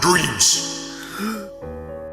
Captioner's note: gasps